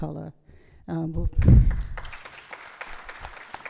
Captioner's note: applause